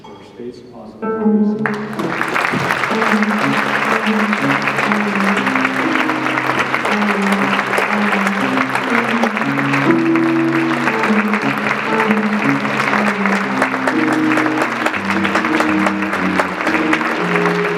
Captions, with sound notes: first Ernest Spaights Plaza Awards. (audience clapping) (jazz music)